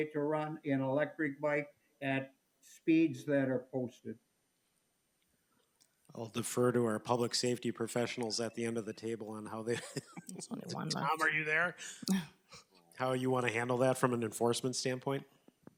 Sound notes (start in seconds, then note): 9.6 laughs